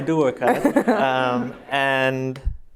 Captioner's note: laughter